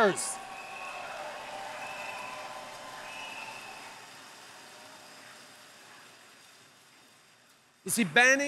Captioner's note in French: Acclamations et applaudissements